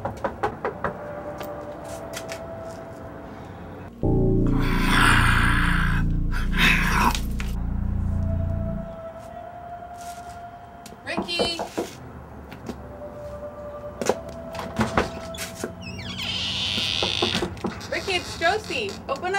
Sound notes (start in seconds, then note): 0.0 knocking on the door; 4.6 Julio growls; 12.9 knocking on the door